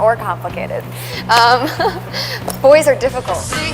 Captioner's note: laughs